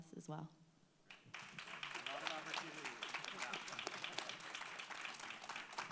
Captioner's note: audience applauds